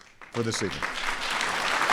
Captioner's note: applause